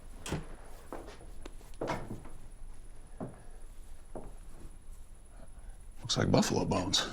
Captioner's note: footsteps